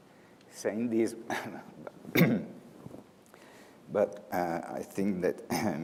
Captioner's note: clears throat